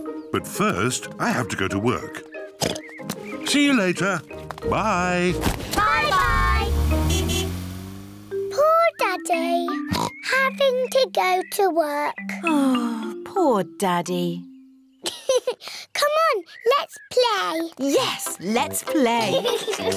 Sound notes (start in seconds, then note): 2.5 oinks; 5.8 toots horn; 9.8 oinks; 15.0 laughs